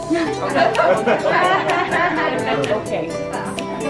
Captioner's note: laughing